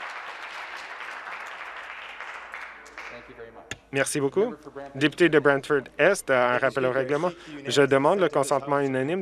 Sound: applause

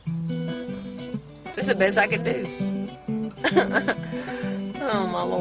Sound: laughs

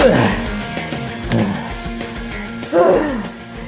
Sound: Luigi panting

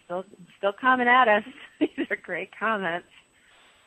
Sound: laughs

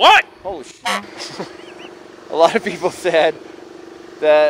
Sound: honk

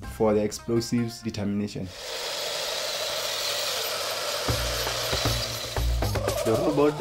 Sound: whirring

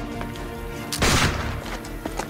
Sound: gunshot

